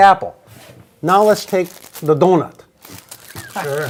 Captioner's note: laughs